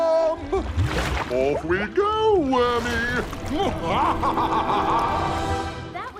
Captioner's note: laughs